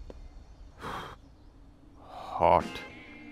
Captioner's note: Exhales